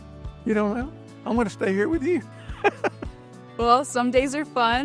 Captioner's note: laughing